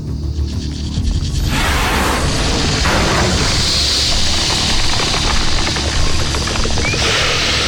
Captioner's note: snake growls; snake screeches